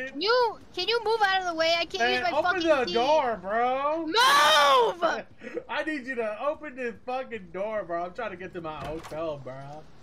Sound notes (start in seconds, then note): 5.9 laughs